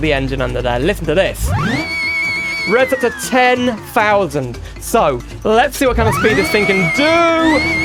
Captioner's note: engine Revs